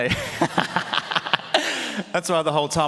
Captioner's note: laughs